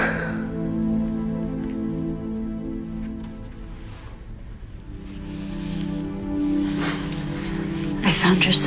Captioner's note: sighs